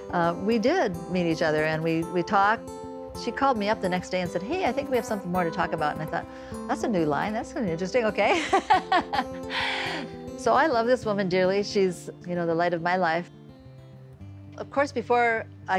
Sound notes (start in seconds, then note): 11.1 laughs